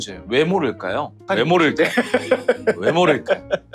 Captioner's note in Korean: 웃음